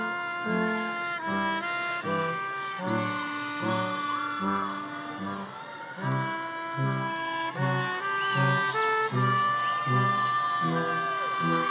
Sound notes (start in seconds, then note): 3.0 audience cheering